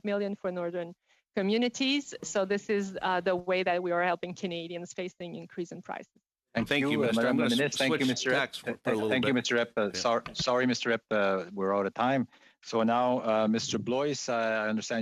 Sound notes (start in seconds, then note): 10.9 mixed voices